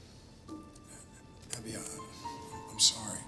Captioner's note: sighs